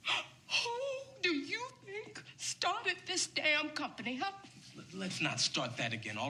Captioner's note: crying